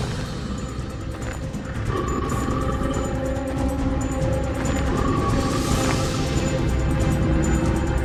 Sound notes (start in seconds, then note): 0.0 tense music continues; 0.9 creature growling